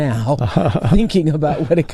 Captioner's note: chuckles